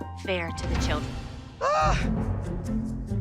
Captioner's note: Abby Lee groans